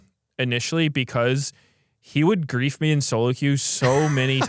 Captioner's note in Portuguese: risos